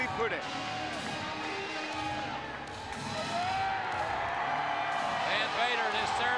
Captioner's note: applause